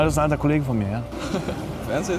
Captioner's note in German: lacht